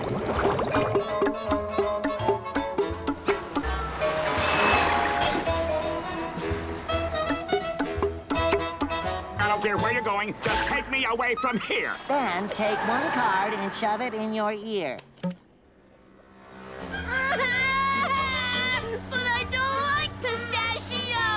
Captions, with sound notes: [popping] [popping] I don't care where you're going just take me away from here. Then take one card and shove it in your ear. [crying] But I don't like pistachio!